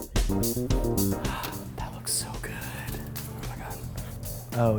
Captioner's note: whispers